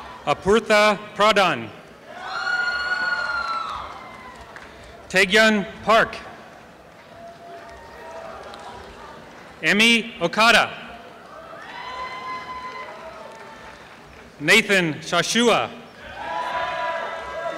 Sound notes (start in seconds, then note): 6.7 applause; 11.2 applause and cheering